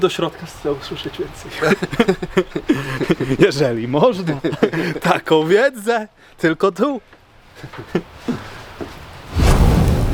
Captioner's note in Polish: śmiech